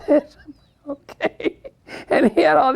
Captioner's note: laughs